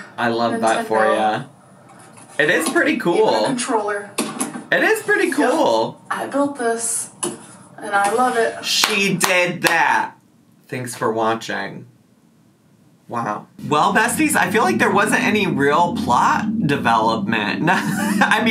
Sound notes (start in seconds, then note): 8.8 clapping